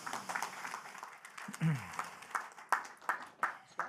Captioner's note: applause